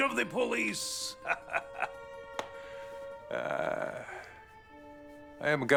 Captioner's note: laughing